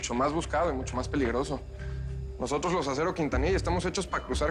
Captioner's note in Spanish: none